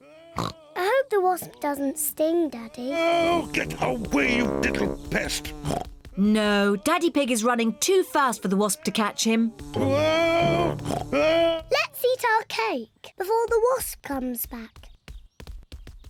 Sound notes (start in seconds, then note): 0.4 snorts; 5.3 snorts; 9.7 snorts